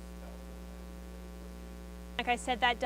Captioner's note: student speaks faintly